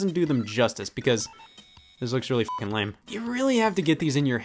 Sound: beeping

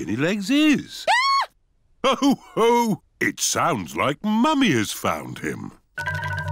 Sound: mummy pig screams

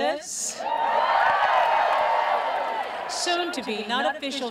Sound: graduates cheering

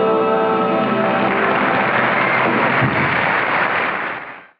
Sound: audience applauds

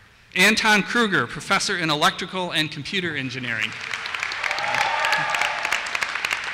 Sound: applause

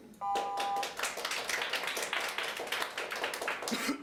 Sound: audience applauding

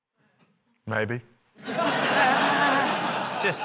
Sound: laughter

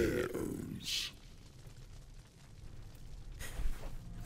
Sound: fire crackle

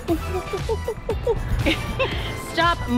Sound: laughs

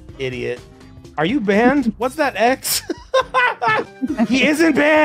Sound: laughs

